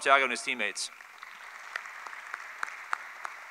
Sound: applause

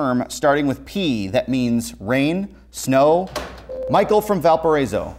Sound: buzzer

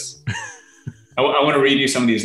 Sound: laughing

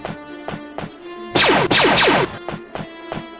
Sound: blaster fire

